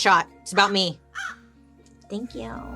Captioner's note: crow cawing